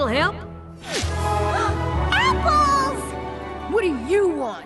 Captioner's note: gasp